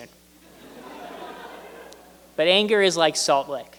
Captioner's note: laughter